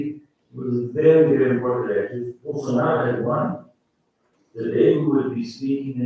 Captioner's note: faintly speaking